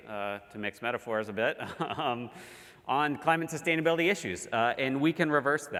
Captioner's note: laugh